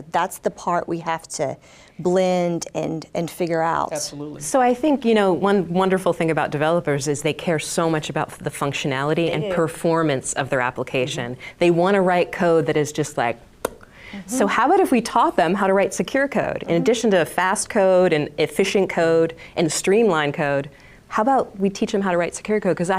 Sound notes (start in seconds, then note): 13.6 lips popping